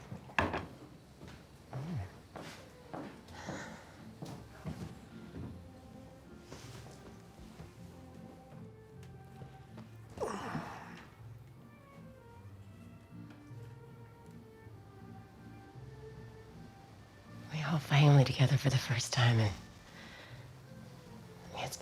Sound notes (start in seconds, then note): 0.3 dish clanks